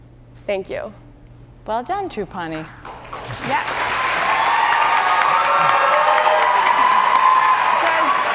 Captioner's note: cheers and applause